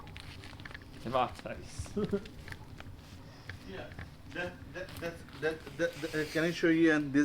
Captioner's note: laughs